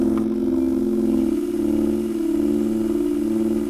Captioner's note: cassette whirring